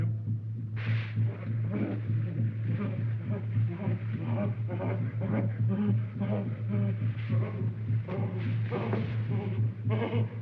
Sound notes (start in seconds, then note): 2.6 panting